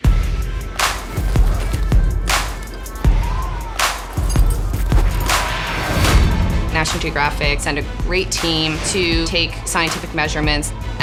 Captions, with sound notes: (upbeat music) (wind howling) (upbeat music) - National Geographic sent a great team to take scientific measurements